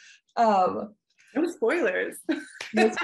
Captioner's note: laughing